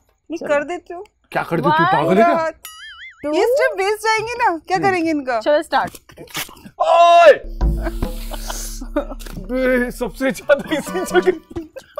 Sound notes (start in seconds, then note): 6.8 screaming